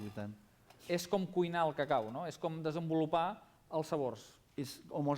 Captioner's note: non-english speech